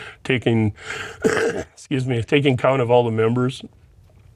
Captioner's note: coughs